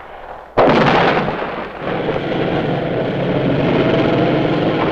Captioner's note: missile blasting; explosion booming